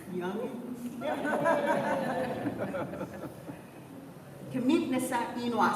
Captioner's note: laughter